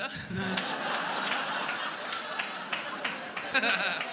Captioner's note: laughing